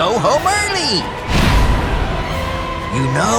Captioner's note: boom